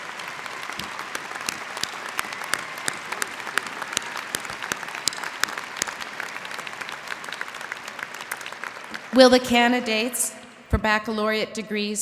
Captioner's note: applause